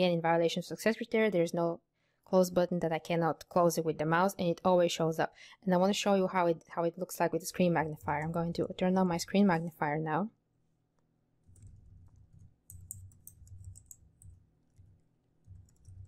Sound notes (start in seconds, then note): 11.5 mouse clicking